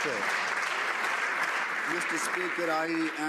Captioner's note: some Applause